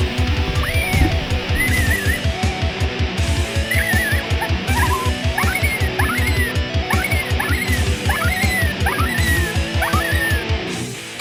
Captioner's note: electronic coyote caller